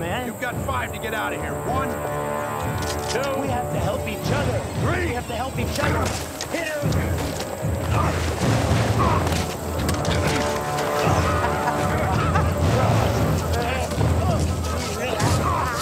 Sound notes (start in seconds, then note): 7.8 grunting; 11.5 laughs